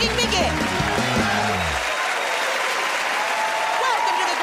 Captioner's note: cheers and applause